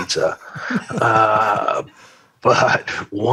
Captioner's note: laughter